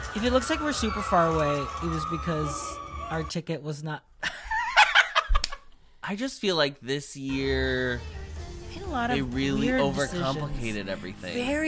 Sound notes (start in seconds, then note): 4.3 laughs